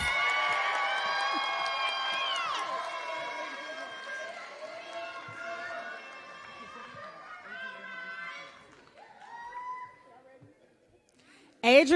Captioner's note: applause